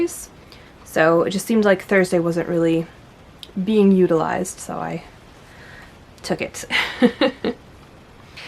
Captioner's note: laughs